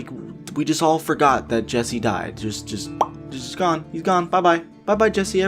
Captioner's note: pop